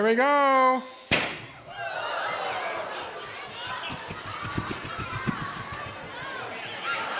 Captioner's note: electron arc crackles, cork pops